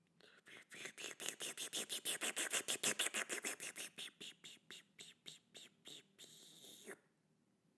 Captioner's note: slurping noise